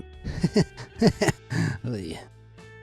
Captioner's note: laughs nervously